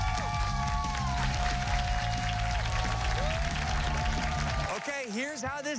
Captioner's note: cheers and applause